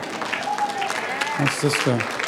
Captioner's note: applause